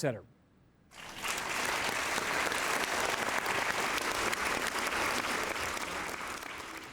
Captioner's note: applause